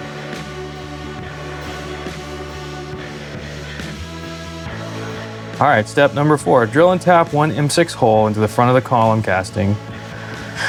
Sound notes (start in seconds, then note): none